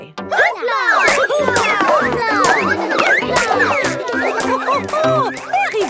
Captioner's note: all laugh